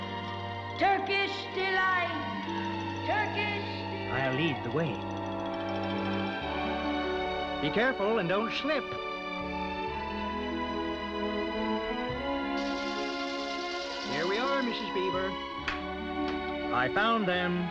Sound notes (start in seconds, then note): none